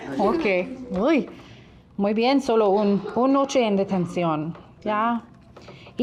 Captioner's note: speaking in a foreign language